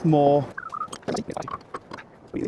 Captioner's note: sound of wind